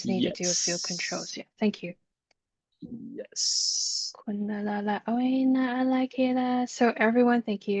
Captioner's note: light language